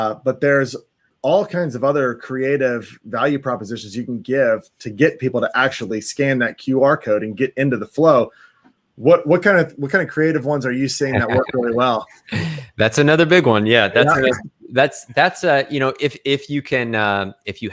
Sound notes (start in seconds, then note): 11.0 laughs